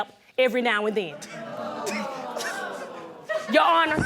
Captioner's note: audience exclaims